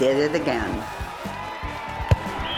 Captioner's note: crowd roaring; whistle blows